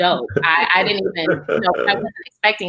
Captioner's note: laughs